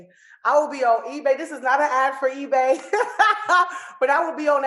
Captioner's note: laughs